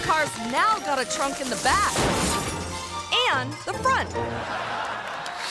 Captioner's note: tree crackling; tree slams; audience laughing